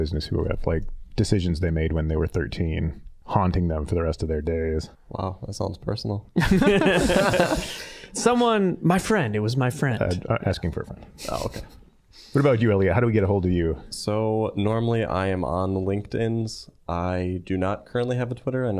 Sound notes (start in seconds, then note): 6.4 all laughing